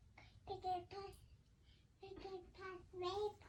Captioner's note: child babbling